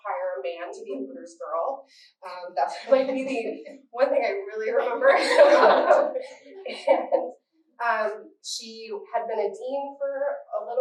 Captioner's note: laughter